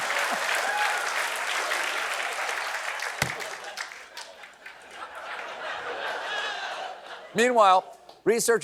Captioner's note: applause; laughter